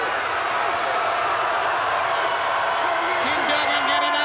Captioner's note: crowd cheers